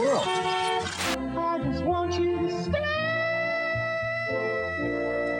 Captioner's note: TV Commercial Plays